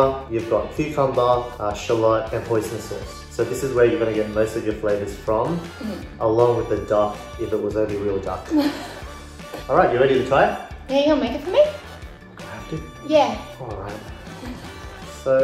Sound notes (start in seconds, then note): 8.5 laughter